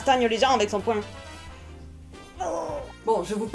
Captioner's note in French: Bruitage : cri semi-grave